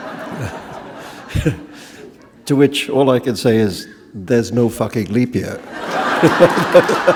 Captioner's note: chuckle; laughter